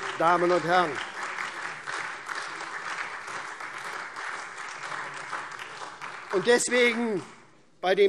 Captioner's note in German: Beifall SPD und vereinzelt AfD